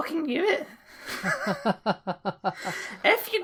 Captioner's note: laughter